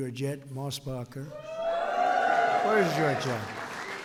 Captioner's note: applause